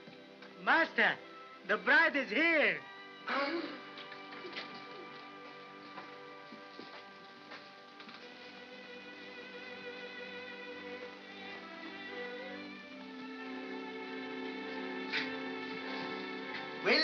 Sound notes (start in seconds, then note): 3.3 gasps; 8.2 soft melancholy music